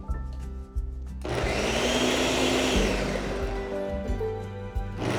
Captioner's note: blending loudly